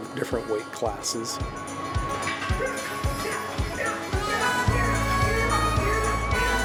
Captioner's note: energetic music; men shouting